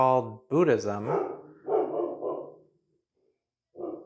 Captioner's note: woof woof woof wuf